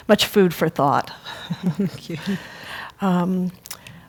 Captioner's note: laugh